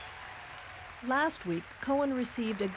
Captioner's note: audience laughs and cheers